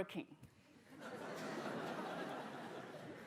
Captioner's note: laughter